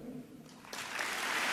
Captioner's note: applause